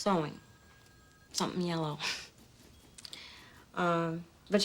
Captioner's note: chuckles